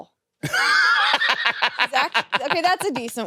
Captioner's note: laughs